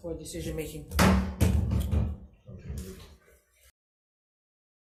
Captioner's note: gavel banging